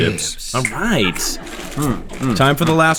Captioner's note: laughing